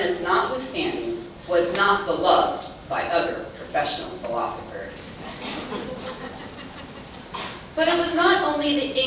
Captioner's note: laughter